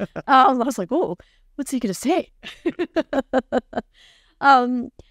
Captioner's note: laughing